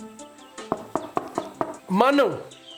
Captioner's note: knocking on the door